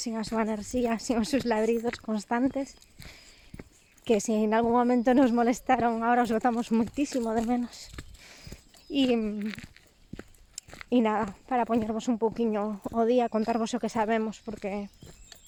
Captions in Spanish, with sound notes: sin su energía, sin sus ladridos constantes, que si en algún momento nos molestaron, ahora los echamos muchísimo de menos. Y... [se quiebra la voz] Y nada. Poneros un poquito al día. Contaros lo que sabemos porque...